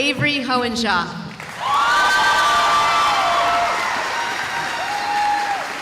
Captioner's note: cheering